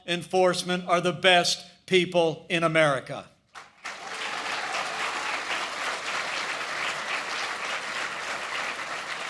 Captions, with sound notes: enforcement are the best people in America. (applause) I think the President spoke for most